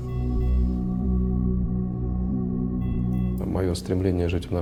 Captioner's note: sound of slow heartbeat on heart rate monitor